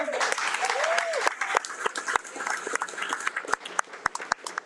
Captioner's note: audience applauding